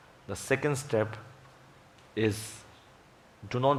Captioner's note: none